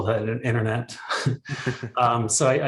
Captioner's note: both laughing